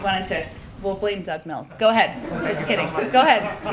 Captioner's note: laughter